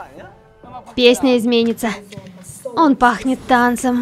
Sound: special footsteps

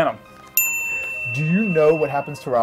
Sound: bell rings

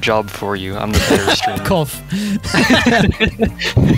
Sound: laughs

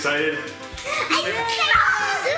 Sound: yelling

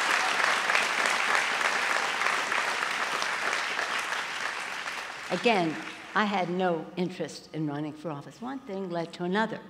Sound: applause

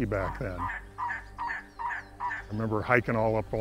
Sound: bird cawing

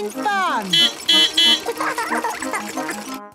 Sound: beeping; laughing

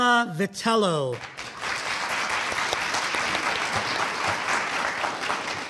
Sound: audience applauding

